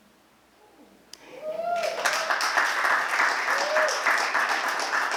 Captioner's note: applause